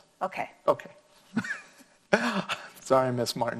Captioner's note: laughing